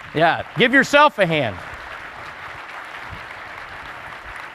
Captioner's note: applause